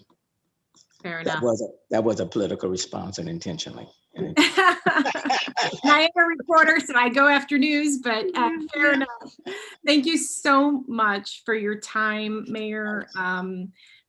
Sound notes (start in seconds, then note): 4.2 chuckling